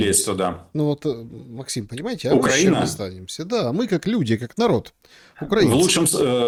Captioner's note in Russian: откашливается